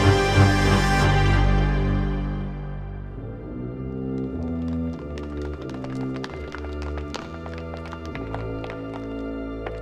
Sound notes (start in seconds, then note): 3.9 running footsteps